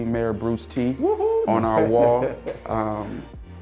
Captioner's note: laughing